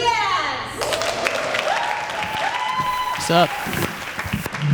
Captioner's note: applause